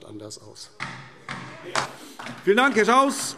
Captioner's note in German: Beifall DIE LINKE